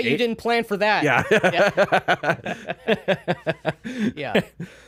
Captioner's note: laughing